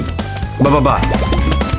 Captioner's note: mating Call